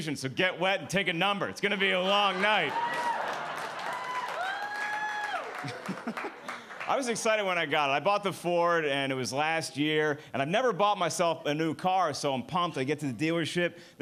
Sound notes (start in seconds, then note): 1.9 audience applauding; 5.6 laughs